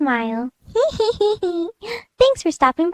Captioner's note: giggles